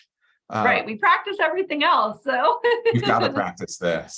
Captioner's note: laughs